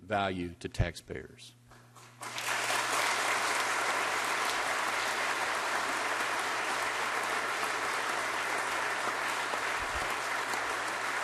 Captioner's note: applause